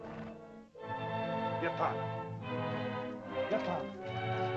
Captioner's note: soft ominous music; Akhoba speaks in caveman language; dramatic music